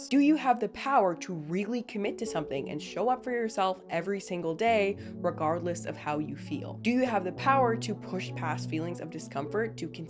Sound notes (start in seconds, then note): none